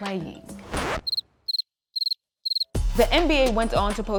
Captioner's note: birds chirping